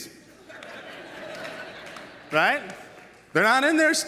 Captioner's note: audience laughs